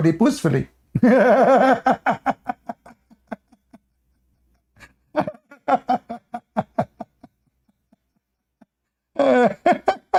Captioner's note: Ketawa